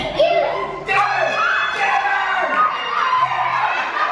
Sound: shouting; laughter

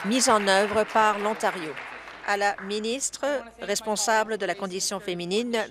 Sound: applause

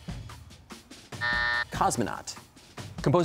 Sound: buzzer

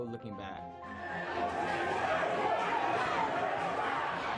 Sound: audience cheering

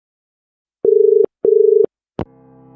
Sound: dial tone

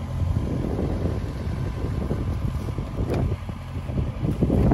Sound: machinery whirring

